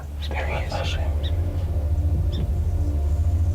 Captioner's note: whispering